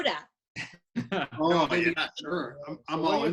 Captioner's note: laughs